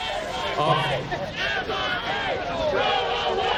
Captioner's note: crowd shouting